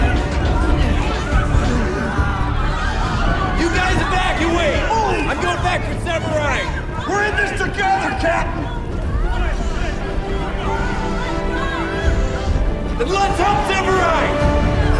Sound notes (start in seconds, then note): 0.2 yelling; 2.1 coughing; 8.8 dramatic music